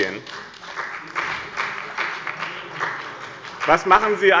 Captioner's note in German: Beifall bei dem BÜNDNIS 90/DIE GRÜNEN und der CDU